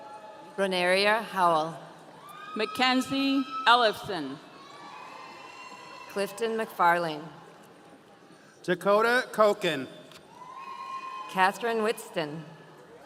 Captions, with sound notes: - Clanaria Howell. (audience cheering) - McKenzie Olivesson. - Clifton McFarling. - Dakota Cochan. - Catherine Whitston.